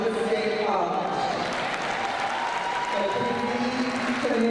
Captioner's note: crowd cheering